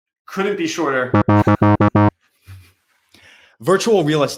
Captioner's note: buzzer buzzing